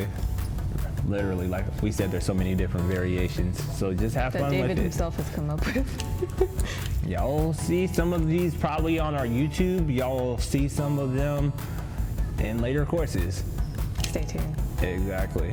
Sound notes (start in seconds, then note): 5.4 giggles